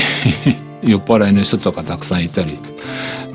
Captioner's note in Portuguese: risos